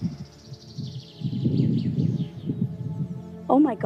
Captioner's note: birds tweeting